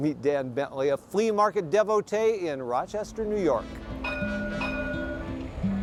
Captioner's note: bell clanging; jazzy music